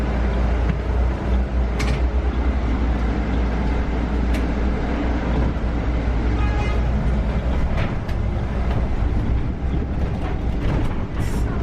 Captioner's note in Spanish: viraje en sonido ambiente